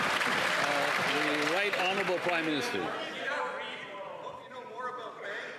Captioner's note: cheers & Applause